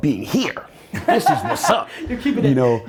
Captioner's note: Gary laughs